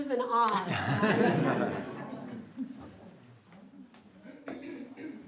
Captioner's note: group laughs